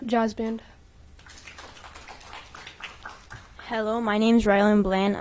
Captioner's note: applause